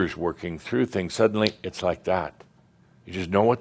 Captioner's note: snap!